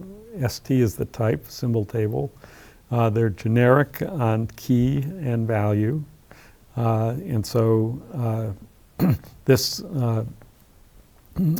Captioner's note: cough